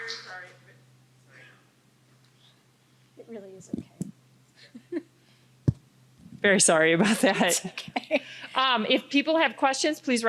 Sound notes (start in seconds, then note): 4.6 laughing; 7.1 laughing